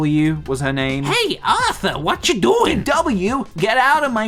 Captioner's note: D.W. voice